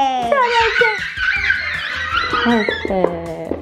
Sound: boys squealing

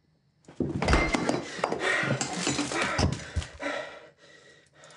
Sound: crashing; heavy breathing

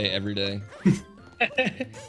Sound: laughs; snicker

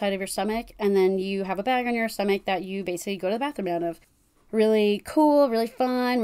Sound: sarcastically

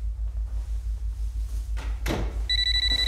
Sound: door shuts

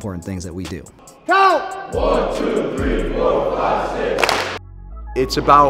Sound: clap

